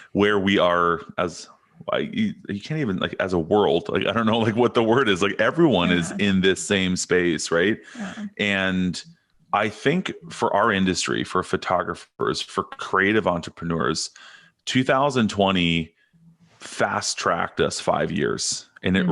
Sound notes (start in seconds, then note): 5.7 chuckles